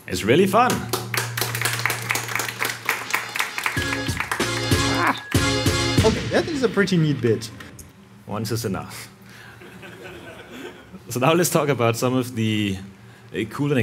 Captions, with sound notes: - It's really fun. (participants applauding) (upbeat music) - Okay, that is a pretty neat bit. - Once is enough. (participants laughing) So now let's talk about some of the cool